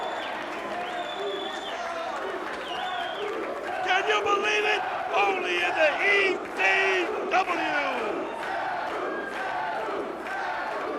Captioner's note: crowd cheering